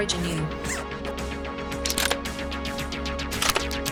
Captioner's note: clicking